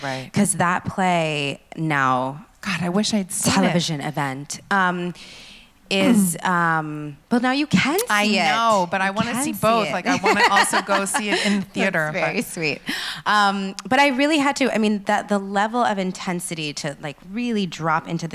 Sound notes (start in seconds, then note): 9.9 laughs